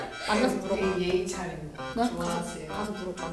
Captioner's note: is speaking politely